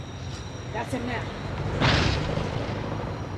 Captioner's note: tire blows